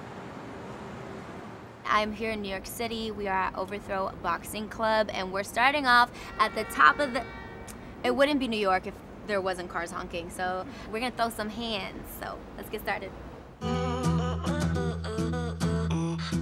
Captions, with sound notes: I'm here in New York City. We are at Overthrow Boxing Club and we're starting off at the top of the-- [car horn honks] It wouldn't be New York if there wasn't cars honking, so, we're gonna throw some hands, so let's get started. [smooth music]